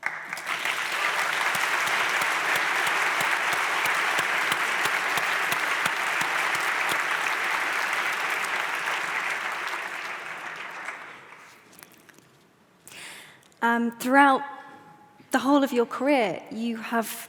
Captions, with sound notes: (audience applauds) - Throughout the whole of your career,